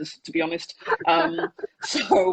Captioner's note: laughs